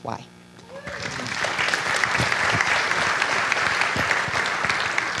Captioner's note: audience clapping